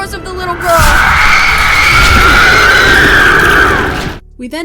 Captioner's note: Aggie’s ghost screams